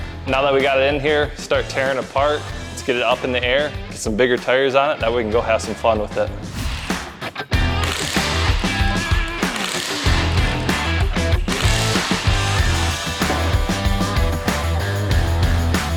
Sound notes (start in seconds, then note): 6.7 upbeat Rock Music Continues; 7.6 power Tools Clanking